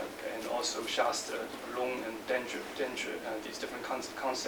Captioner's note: non-english speech